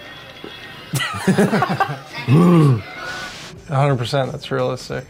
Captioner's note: players laughing